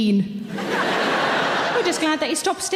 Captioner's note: audience laugh